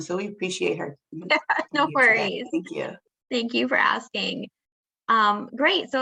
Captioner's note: laughs